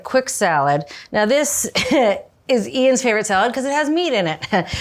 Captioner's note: chuckles; chuckles